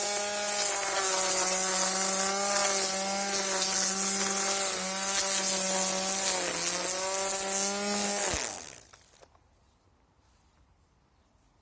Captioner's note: strimmer noises